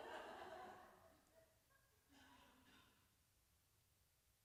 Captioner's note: audience laughs